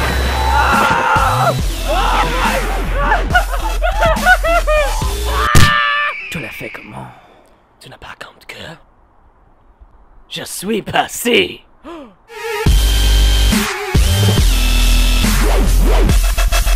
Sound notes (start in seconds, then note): 11.8 gasps in French